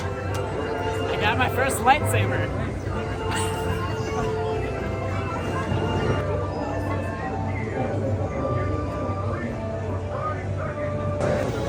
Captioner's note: laughs